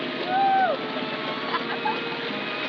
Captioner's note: laughs